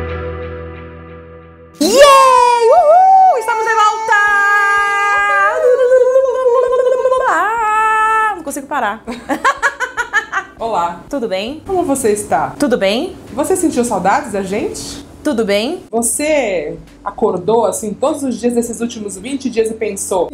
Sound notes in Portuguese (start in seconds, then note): 5.4 cantarola; 9.0 risos